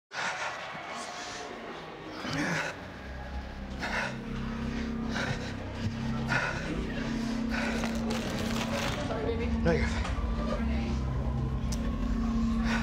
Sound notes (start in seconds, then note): 0.8 suspenseful music; 2.3 person breathes; 7.7 object clattering; 7.7 people chattering